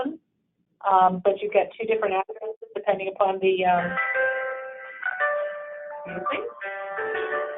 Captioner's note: background ringing